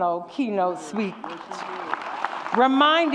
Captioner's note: audience cheers